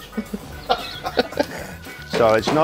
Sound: laughing

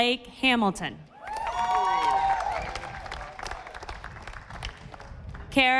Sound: audience applauding

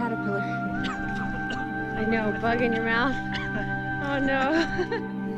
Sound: coughing

